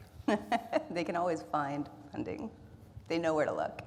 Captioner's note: laughs